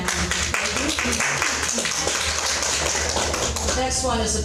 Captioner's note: audience clapping